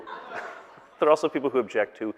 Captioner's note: audience laughing